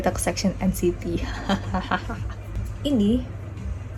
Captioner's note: weird laughing